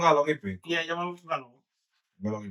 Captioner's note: speaking In Foreign Language